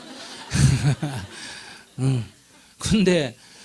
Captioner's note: audience Laughter